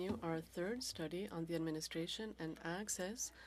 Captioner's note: speaking French